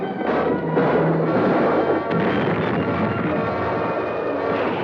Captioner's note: gunshots blasting